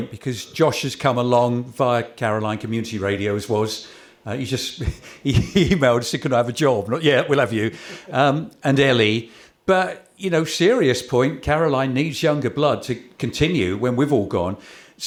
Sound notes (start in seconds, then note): 4.8 chuckle